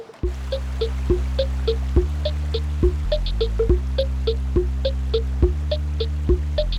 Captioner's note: water rushing; electric music continues